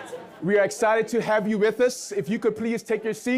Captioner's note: audience laughs